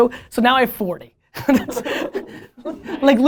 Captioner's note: laughter